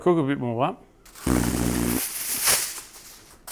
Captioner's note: silly noise